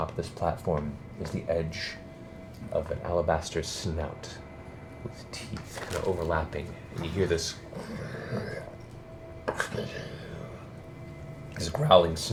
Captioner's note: snarls